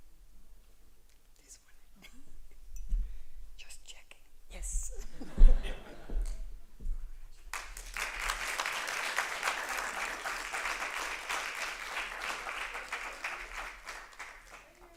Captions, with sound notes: This one? Just checking. Yes. [APPLAUSE]